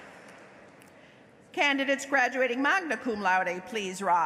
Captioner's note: applause